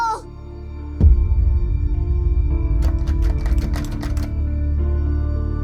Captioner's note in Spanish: Sonido de llaves